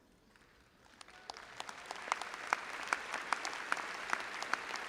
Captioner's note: audience applauding